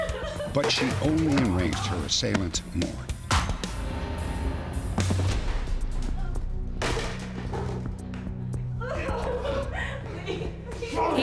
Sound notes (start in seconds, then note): 0.0 crying; 6.6 bangs; 8.7 crying